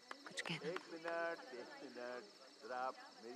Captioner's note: Man over mike